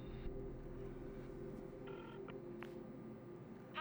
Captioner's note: clicks